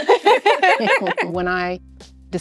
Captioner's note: all laughing